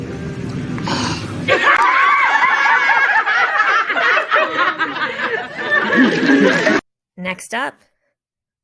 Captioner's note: strong laughter